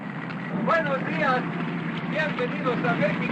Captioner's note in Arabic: يتحدث الاسبانية